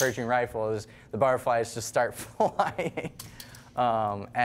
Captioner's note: laughing